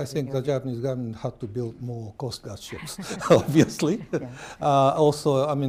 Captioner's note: laughter